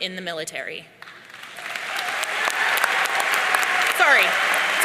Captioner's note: audience cheering